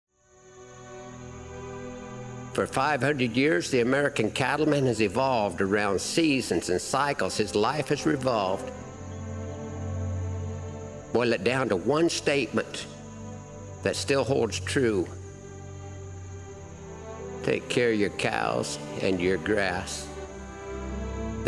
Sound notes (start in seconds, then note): 0.7 birds chirping; 0.7 soft music